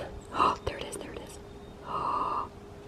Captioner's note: gasps